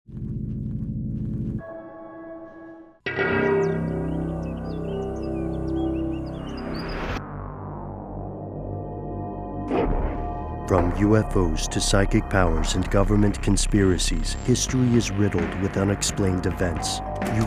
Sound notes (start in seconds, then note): 3.1 daunting music; 10.5 voiceover